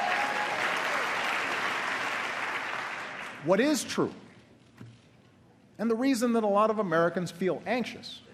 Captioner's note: applause